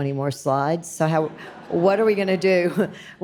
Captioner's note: audience laughs